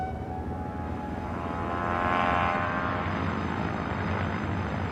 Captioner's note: plane descending